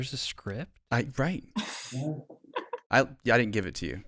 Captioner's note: laughs